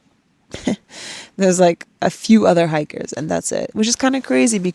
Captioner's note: chuckles